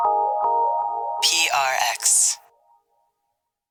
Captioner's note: ambient music; automated Voice